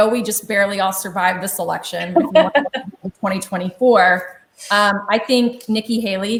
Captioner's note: chuckles